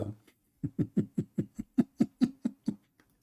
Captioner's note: Ketawa